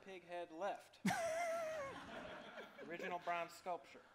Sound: laughs

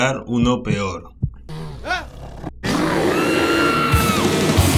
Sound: screams

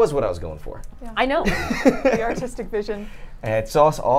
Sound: laughs

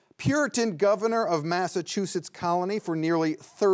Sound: none

